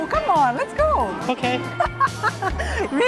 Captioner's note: laughs